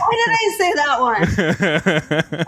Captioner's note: laughing